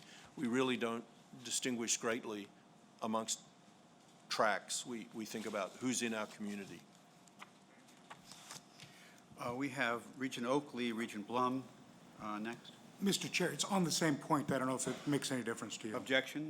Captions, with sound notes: we really don't distinguish greatly amongst tracks. We think about who's in our community. - [Voiceover] We have Regent Oakley, Regent Blum next. - [Voiceover] Mr. Chair, it's on the same point, that I don't know if it makes any difference to you.